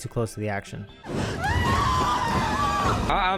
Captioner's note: screams